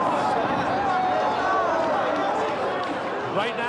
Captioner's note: police sirens